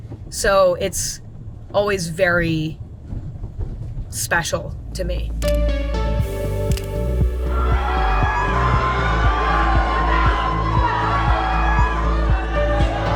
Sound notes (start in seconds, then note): 5.4 upbeat electronic music; 7.4 people screaming and cheering